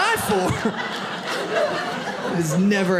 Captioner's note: audience laughs